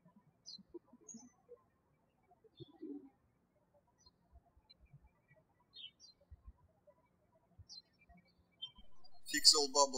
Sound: birds chirping

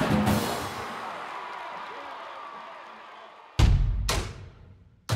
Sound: crowd cheering; intense drumming

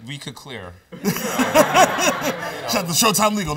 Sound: laughter

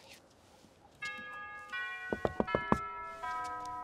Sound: doorbell rings

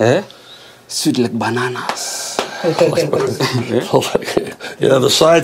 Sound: chuckles

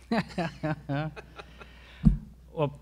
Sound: presenters laugh

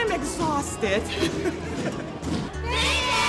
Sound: laughing

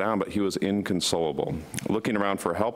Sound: none

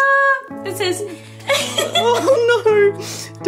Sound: laughs

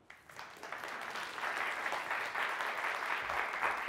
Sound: applause

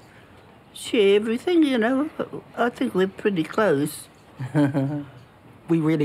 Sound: chuckles

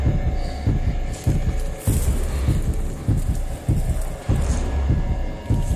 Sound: rustling

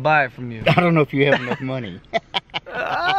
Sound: laughs

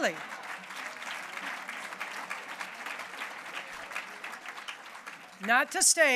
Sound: applause

